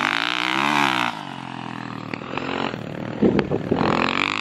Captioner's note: engine revving